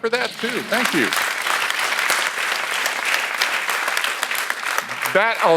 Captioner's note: audience applauds